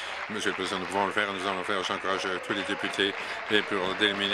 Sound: applause

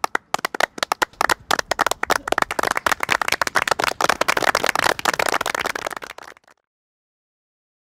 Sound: applause

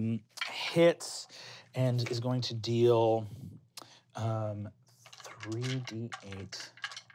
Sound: dice rolling

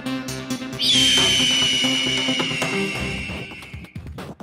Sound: hawk screeches

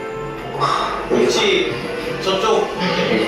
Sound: haha

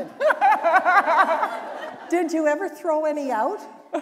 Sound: laughter

